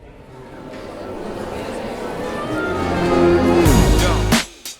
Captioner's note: crowd murmuring; upbeat music